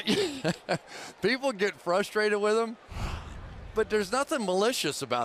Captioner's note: laughs